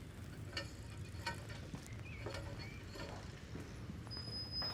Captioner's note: column rattling